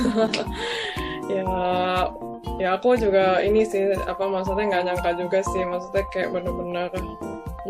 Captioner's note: laughs